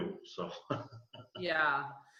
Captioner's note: laughs